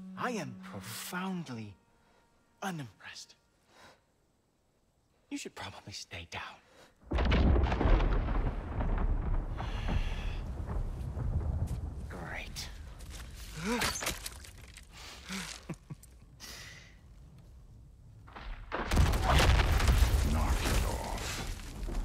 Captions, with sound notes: ...I am profoundly... ...unimpressed! You should probably stay down. (thunder) Great. (laughs) Knock it off!